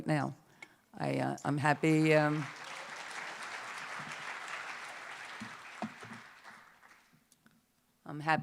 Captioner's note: applause